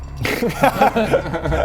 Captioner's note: laughs